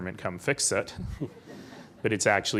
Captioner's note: laughing